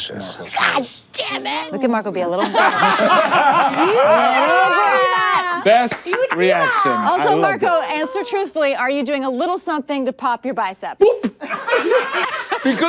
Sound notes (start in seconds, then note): 2.4 everyone laughs; 11.4 everyone laughs